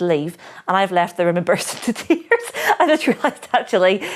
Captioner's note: laughing